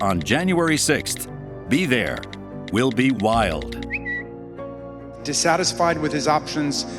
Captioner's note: Twitter chime